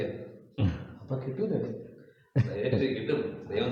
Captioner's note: playfully